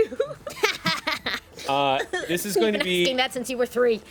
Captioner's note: woman laughs